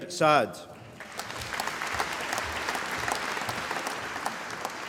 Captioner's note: applause